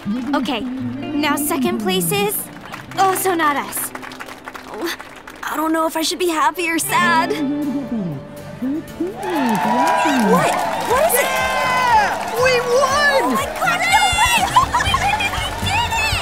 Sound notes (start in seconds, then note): 3.8 crowd clapping; 9.8 crowd cheering